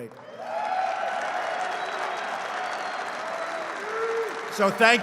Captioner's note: applause